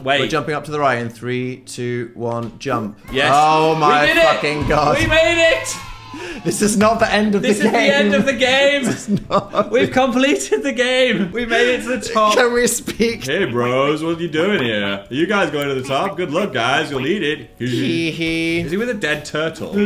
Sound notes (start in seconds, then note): 3.1 children cheering; 6.1 laughs; 9.6 laughs